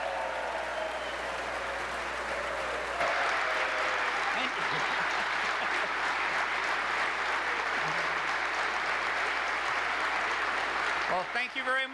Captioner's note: applause